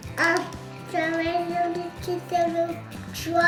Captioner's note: babbling